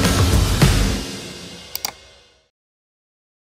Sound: mouse click

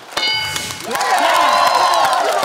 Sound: bell dings; cheering/applause

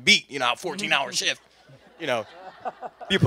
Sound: laughter

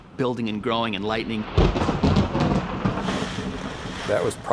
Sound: thunder crashing

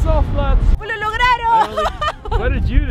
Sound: speaks foreign language

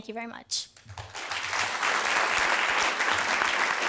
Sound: applause

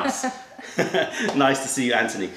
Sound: laughter

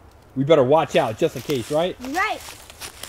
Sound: voiceover

